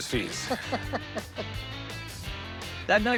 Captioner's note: laughs